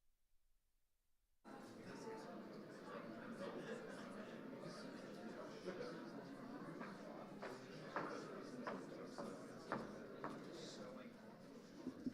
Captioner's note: overlapping chatter